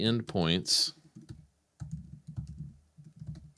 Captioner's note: keyboard Clicking